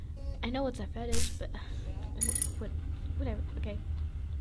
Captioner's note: uncomfortable sound